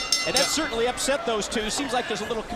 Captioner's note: bell ringing